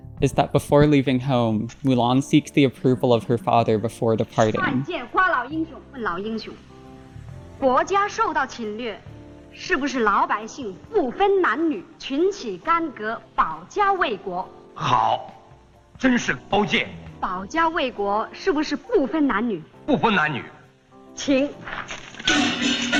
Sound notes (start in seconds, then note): 4.9 speaking in Mandarin